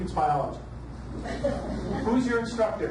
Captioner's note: audience laughs